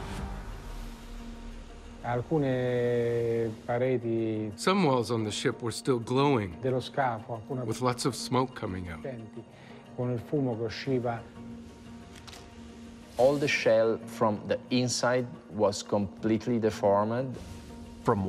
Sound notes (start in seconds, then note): 2.2 speaks in foreign language; 9.2 speaking in foreign language